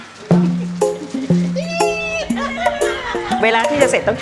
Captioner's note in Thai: เสียงหัวเราะ